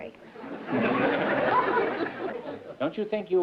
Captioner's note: laughter